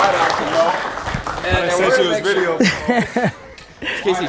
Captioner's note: group applauds